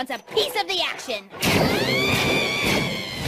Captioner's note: screams